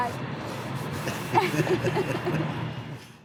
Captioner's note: laughing